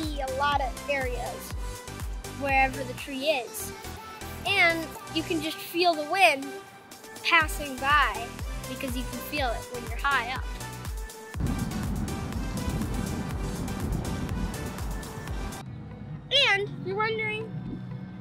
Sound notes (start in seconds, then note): 11.4 wind